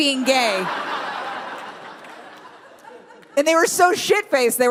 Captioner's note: crowd laughs